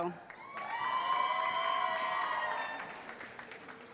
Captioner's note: cheering